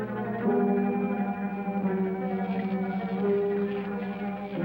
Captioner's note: electricity crackling